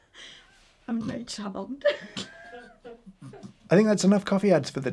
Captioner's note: producer laughs; laughs